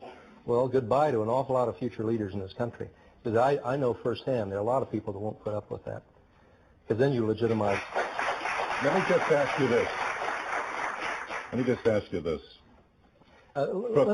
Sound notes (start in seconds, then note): 7.4 applause